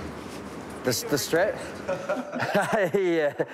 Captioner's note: laughs